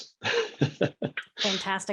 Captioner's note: laughing